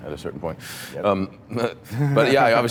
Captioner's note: laughs